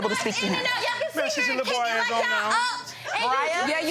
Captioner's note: both chattering